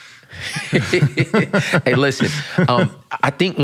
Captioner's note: laughs